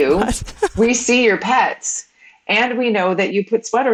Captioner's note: woman laughs